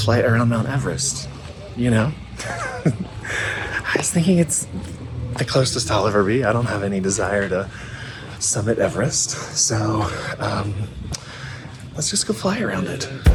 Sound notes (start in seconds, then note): 2.9 laughing